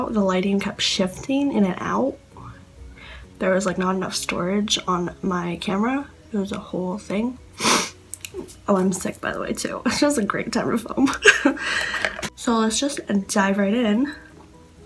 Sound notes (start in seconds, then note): 7.5 sniffs; 11.1 laughs